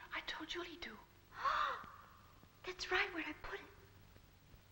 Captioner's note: gasping